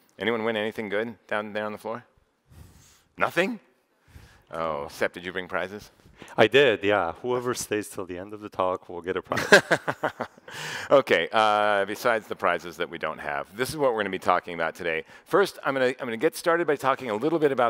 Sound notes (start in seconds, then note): 9.3 chuckles